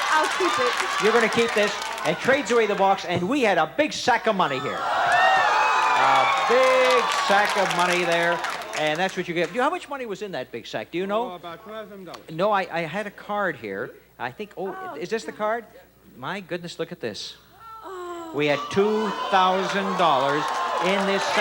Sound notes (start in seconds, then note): 4.4 audience shouting